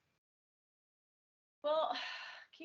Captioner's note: sigh